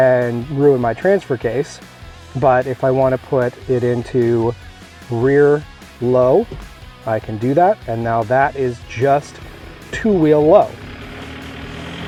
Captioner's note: diesel engine revs up